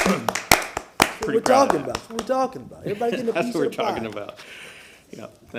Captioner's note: applause